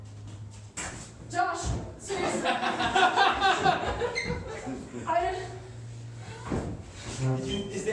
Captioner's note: laughter